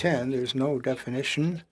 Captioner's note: speaking French